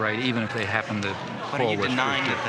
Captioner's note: none